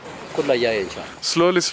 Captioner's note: speaking Arabic